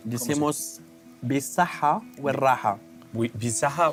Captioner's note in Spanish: habla en bereber